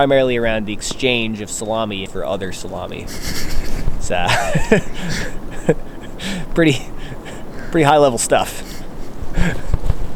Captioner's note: laughs